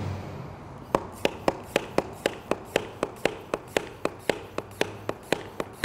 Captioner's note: air pump clicks and hisses